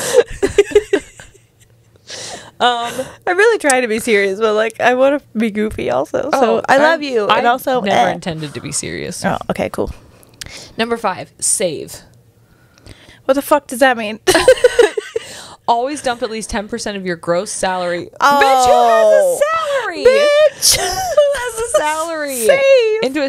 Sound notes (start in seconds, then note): 0.3 panel laughing; 20.0 panel laughing